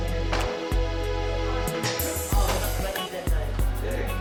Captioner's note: indistinct chatter